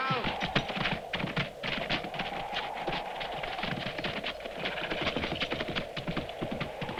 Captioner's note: hooves clopping; wind whooshing